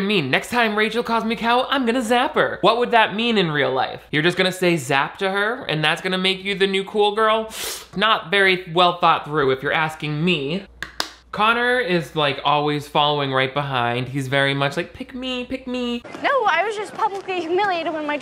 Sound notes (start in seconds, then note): 7.5 deep sniffing; 11.1 container clicking shut